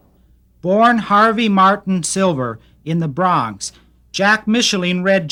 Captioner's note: voiceover